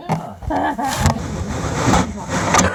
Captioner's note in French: Le partenaire du voleur rit; bruits de microphone